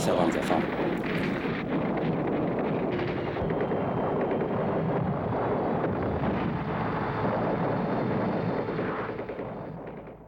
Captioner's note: bullets and bombs sound